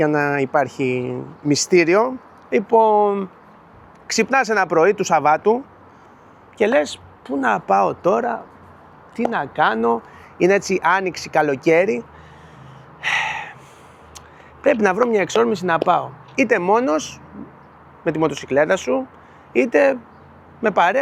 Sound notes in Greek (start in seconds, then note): 12.1 ξεφυσάει; 12.2 αναστενάζει